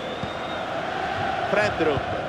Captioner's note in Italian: Applauso